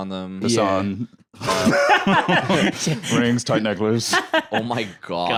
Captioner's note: laughs